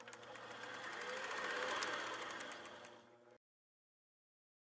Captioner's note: camera film rolling